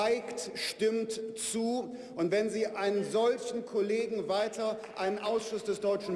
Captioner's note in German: Beifall der Abg